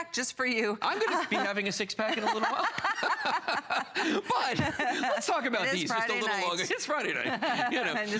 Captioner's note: laughter; laughter